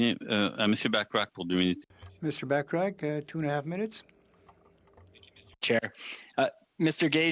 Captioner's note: speaking French